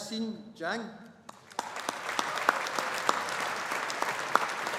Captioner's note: audience applauding